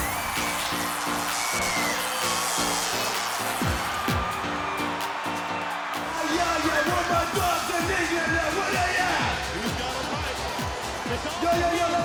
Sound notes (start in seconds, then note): 0.0 electricity crackles